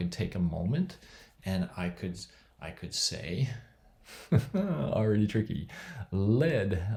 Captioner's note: laughs